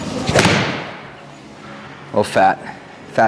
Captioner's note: club thuds